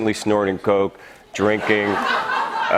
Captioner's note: laughter